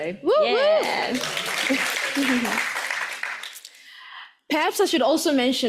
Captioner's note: audience applauds